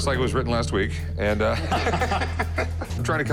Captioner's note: all laugh